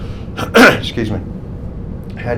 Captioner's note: clears throat